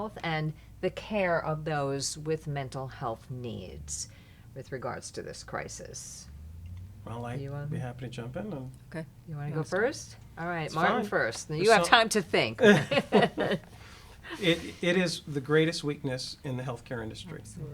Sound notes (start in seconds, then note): 12.5 laughs